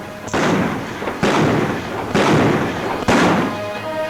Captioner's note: guns bang